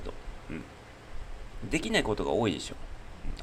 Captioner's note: clears throat